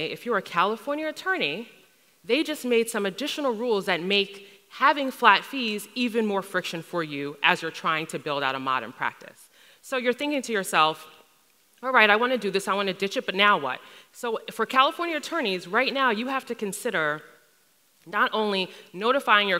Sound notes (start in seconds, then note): none